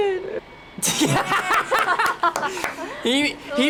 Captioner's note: both laugh